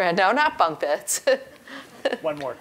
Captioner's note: laugh